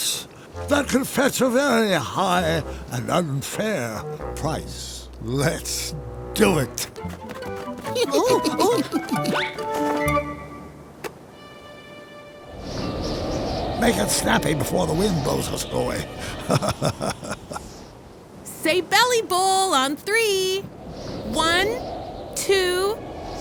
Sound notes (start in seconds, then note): 7.8 minions laugh; 12.4 wind rushes; 14.9 laughs